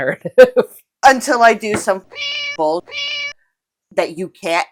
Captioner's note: meow